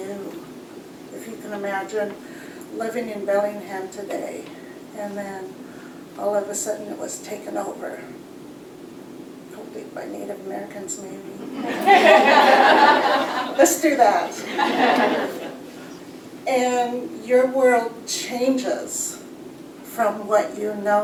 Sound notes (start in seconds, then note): 11.4 laughter